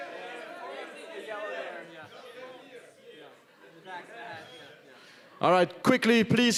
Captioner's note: audience talking loudly